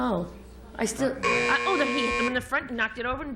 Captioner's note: buzzer